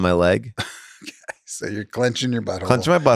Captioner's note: laughs